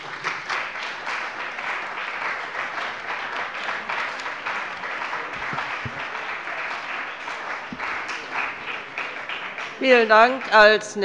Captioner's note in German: Beifall bei dem BÜNDNIS 90/DIE GRÜNEN und der CDU